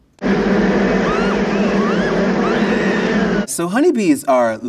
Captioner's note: picnicker screaming